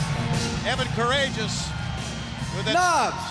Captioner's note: crowd cheering